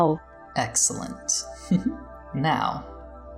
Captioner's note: mischievous giggles